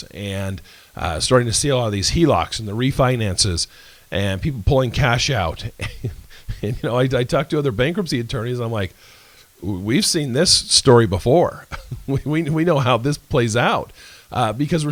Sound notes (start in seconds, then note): 5.6 laughs; 11.6 laguhs